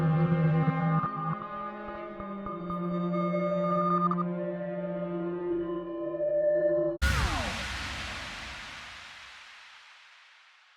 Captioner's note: logo sound